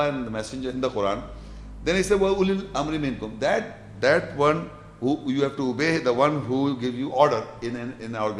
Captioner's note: Arabic